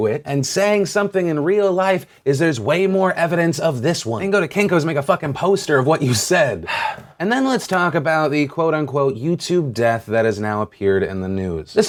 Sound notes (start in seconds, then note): 6.6 sigh